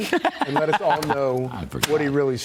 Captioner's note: laughter